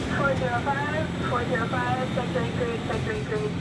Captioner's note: radio chatter